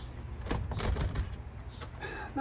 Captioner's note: door handle rattles; sighs